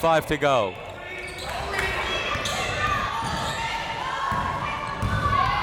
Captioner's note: crowd members shouting